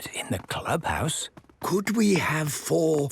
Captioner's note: speaking quietly